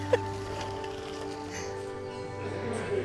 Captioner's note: laughs